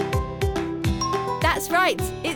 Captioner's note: bell dinging